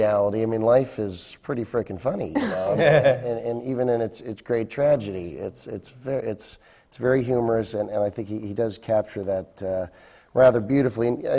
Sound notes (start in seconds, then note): 2.4 laughter from the panel